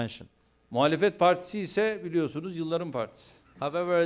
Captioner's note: non-english speech